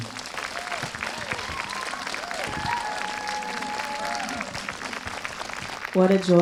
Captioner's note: audience cheers and applauds